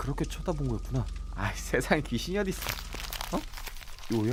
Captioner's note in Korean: 부스럭